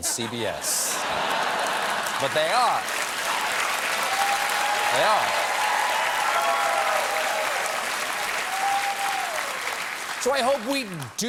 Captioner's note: cheers and applause